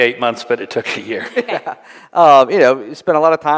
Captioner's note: laughter